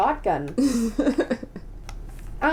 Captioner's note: laughter